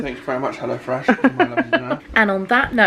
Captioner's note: laughing